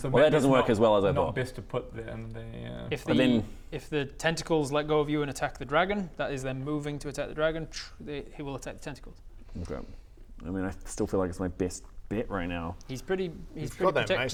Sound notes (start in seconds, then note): none